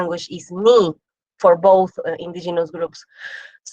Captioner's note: speaks foreign language